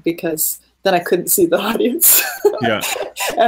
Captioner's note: laughing